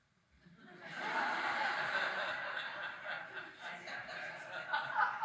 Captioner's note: audience laughing